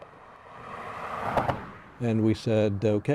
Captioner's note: car whooshes